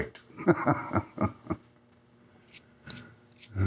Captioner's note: snickering